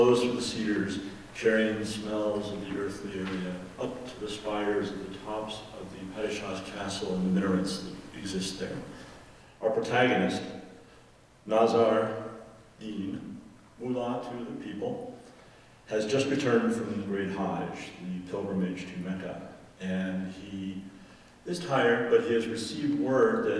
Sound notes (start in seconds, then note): none